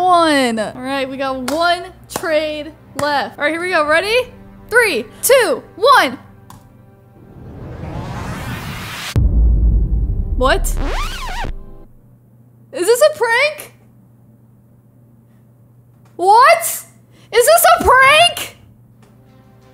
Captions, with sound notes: All right, we got one trade left (clapping). All right, here we go, ready? Three, two, one. (suspenseful music) What? (record scratches) Is this a prank? What? Is this a prank?